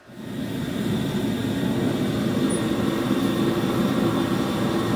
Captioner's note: furnace roaring